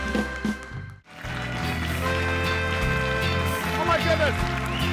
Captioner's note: bright music; audience applauding